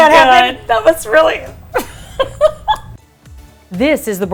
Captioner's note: laughs